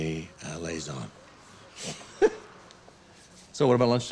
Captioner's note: laughs